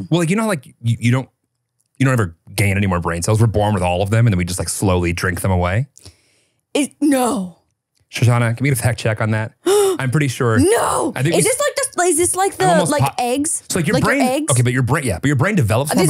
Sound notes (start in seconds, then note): 9.6 gasps